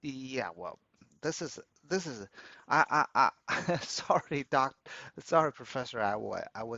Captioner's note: laughs